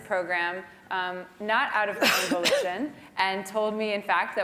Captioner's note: cough